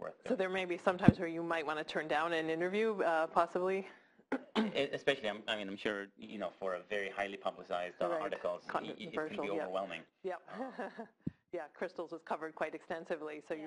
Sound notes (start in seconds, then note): 4.4 cough; 10.5 laugh